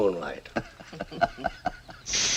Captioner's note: guffaws